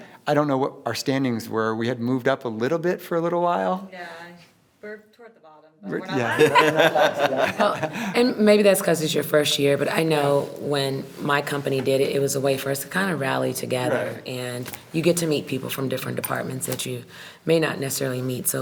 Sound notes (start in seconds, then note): 6.1 everyone laughs